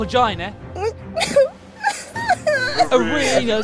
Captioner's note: sobbing